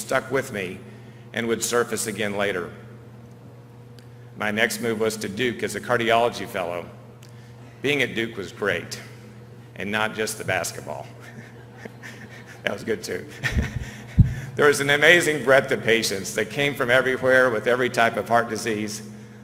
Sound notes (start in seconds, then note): 13.3 chuckle